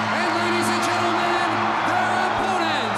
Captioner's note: crowd cheering